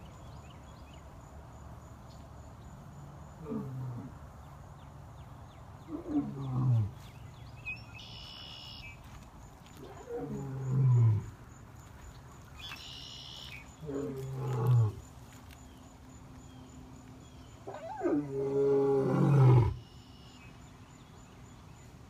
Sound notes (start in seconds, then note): 6.5 roaring